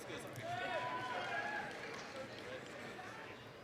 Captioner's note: applause, cheering